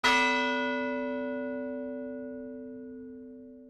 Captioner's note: bell tolling